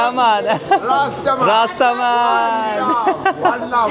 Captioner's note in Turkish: kahkaha